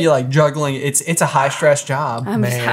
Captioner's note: sighing